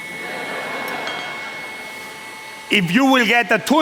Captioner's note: laughter